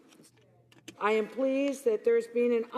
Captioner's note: speaking French